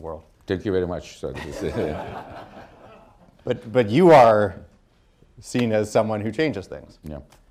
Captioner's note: laughter